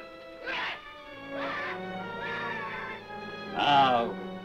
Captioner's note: Strowski screaming